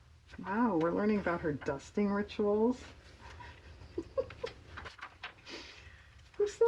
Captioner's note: laughs